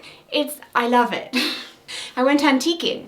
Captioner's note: chuckling